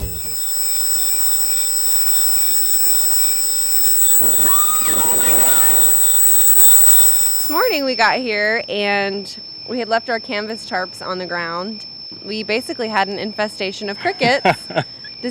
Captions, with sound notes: (crickets chirping) (screams) Oh My God! This morning we got here and we had left our canvas tarps on the ground. We basically had an infestation of crickets,